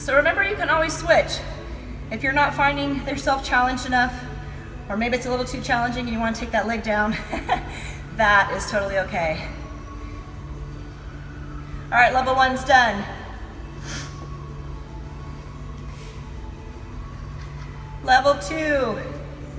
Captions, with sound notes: Remember, you can always switch. If you're not finding yourself challenged enough, or maybe it's a little too challenging, you want to take that leg down, (laughs) that is totally okay. All right, level one's done. Level two.